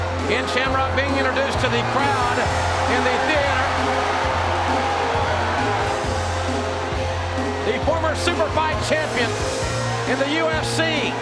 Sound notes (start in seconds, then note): 4.7 crowd cheers; 4.7 energetic rock music